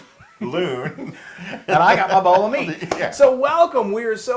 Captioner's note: laugh